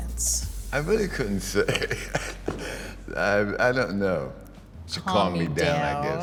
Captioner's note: laughs